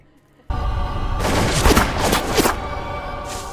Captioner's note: gunshots and bullets bursting the soil